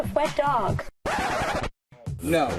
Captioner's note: record scratches